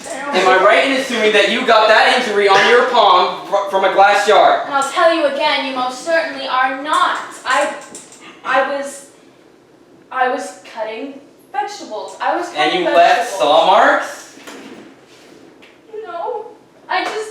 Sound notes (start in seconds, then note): 14.4 chair rolling